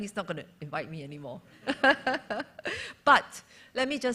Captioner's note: laughter